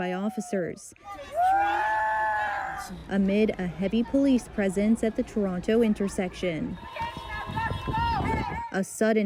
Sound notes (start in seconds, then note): 2.5 screams